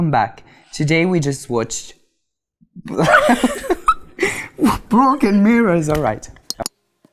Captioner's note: laughing